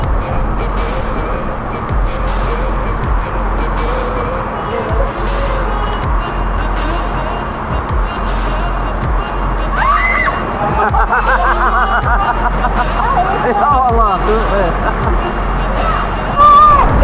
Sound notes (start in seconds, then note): 9.7 laugh; 9.7 scream